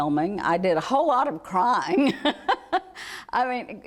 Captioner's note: laughing